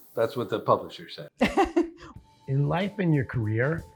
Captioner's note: laughs